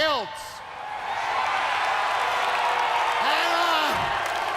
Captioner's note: crowd cheering